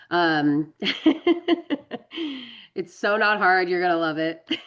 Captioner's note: laughs